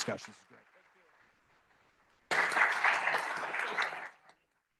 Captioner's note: applause